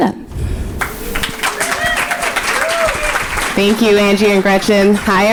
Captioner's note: audience applauding